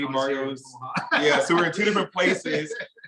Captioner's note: laughing